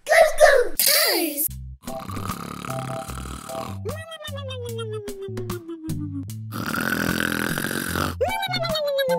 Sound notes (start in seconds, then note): 2.2 children snoring; 2.7 whimsical music